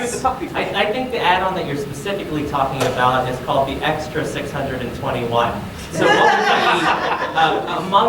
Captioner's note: audience laughing